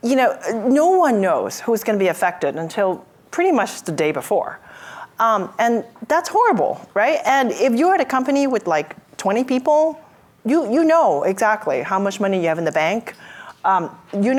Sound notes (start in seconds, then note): none